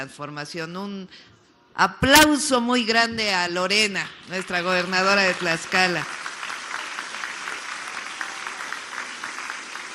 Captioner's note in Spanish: aplausos